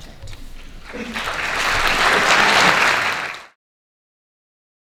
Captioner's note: audience applauding